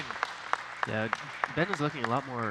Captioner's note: audience clapping